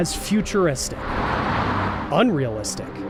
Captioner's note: cars whooshing